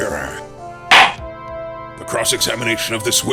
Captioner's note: gavel slams!